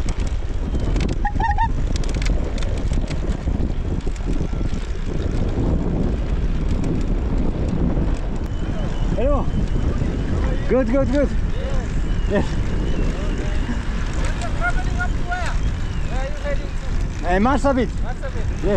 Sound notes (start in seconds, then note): 1.2 trike honking